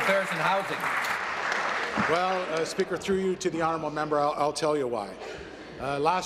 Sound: applause

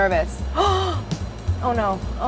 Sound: gasps

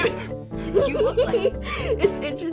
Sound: both laugh; laughs

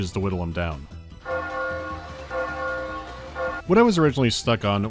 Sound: bell starts ringing

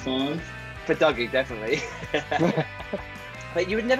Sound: laughing

